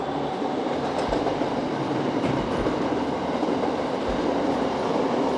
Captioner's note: wind whooshing